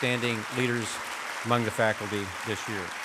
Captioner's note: applause